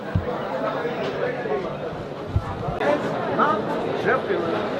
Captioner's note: crowd talking